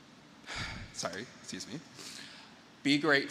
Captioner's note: breathes deeply